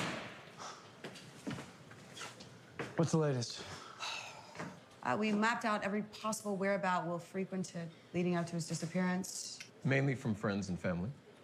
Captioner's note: door closes